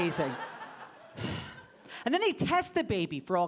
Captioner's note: audience laughing